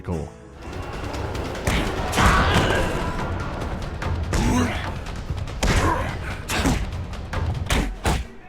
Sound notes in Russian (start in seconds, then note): 1.6 смачные удары, вскрики и стоны; 7.6 серия ритмичных, мощных ударов